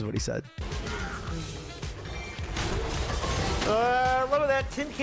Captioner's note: League of Legends game noises